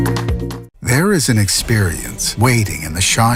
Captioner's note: voiceover